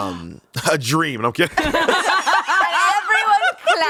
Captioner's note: everyone laughs